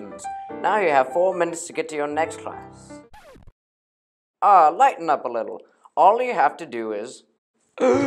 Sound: breathes

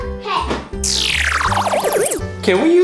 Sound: swirl sound

